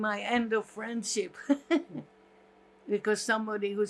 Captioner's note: laughing